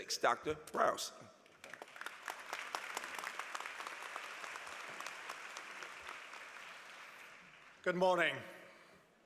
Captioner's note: applause